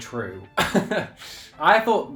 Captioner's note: laughs